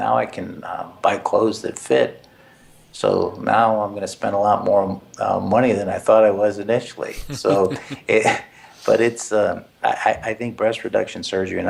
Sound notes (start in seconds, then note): 7.1 laugh